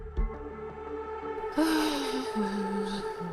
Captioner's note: sighs